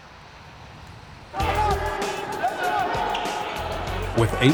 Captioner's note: game hubbub